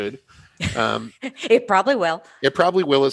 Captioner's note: laughter